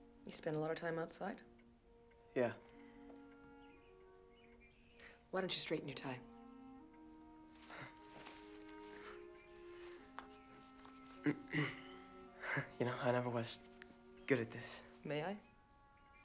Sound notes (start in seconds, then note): 11.2 clears throat